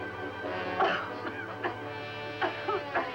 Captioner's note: coughing